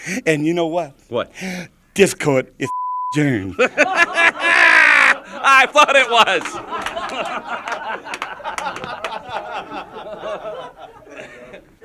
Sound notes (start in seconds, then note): 2.7 beep; 3.4 group laughing